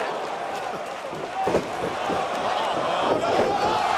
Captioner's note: crowd cheering